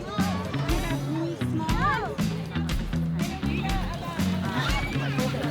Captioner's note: group chattering